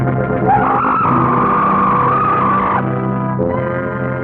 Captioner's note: serpent screeching; serpent shrieks; suspenseful music